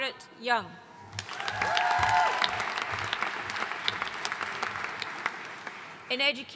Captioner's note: audience cheering and applauding